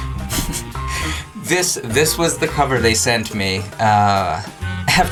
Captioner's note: laughing